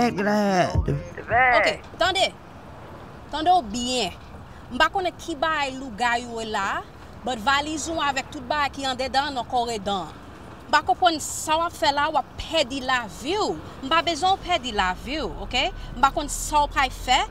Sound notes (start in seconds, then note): 1.9 mom speaking in Creole